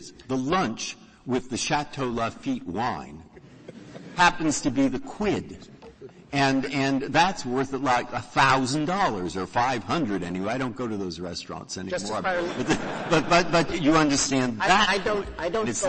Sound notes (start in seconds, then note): 12.2 laughter